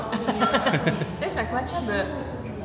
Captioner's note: laughing